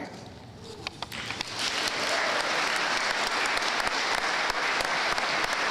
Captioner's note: audience applauding